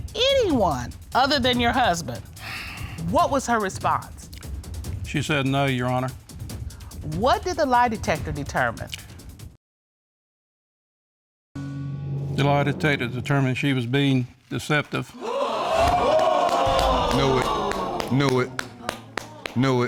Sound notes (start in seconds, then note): 15.1 audience gasping; 15.6 clapping